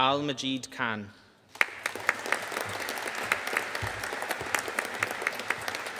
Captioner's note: audience applauding